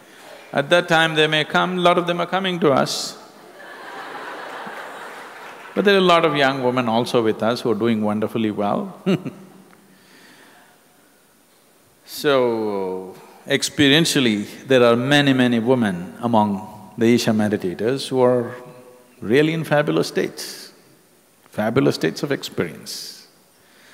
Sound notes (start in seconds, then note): 3.4 laughter; 11.0 laughs